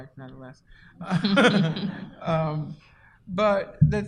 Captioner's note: laughter